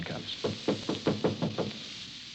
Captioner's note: knocking